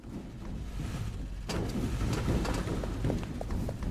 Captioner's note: footsteps